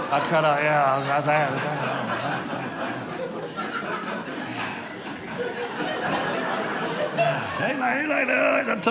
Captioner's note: audience laughing